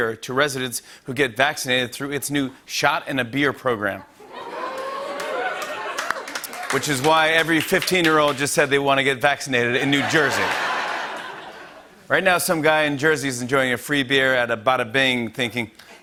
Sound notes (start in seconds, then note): 4.4 oohs and applause; 9.8 laughter